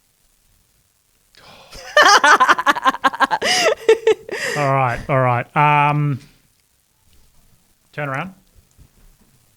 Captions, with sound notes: (laughs) - All right, all right. Turn around.